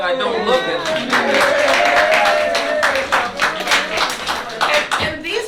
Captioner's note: cheers, applause